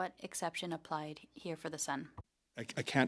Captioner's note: speaking French